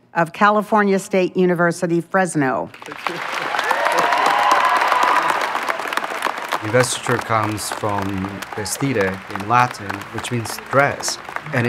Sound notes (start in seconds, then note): 2.7 crowd cheers and applauds loudly